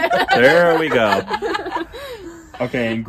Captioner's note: group laughing; laughing continues